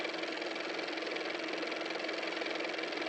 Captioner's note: car motor